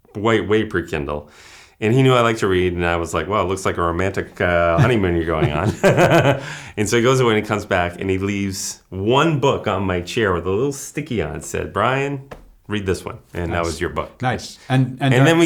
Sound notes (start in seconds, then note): 4.7 laughter